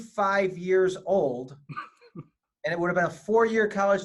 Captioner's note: laughing